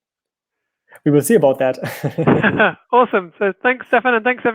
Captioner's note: laughing